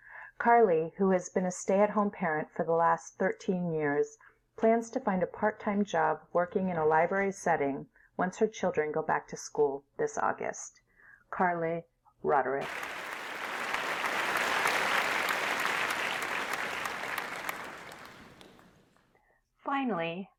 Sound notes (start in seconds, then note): 12.6 applause